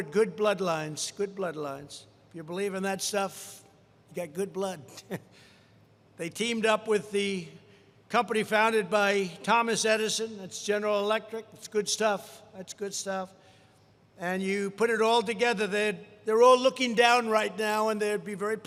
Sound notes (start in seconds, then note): 5.3 laughs